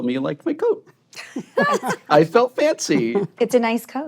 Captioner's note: laughter